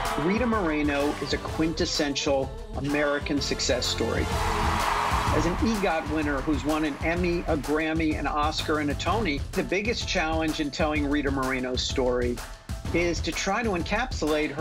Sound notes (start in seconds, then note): 4.0 crowd cheering and applauding